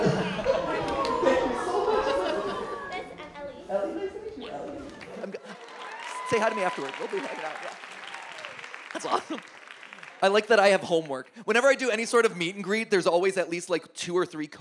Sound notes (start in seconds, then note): 8.3 audience applauds